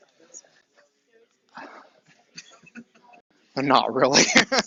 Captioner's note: laughs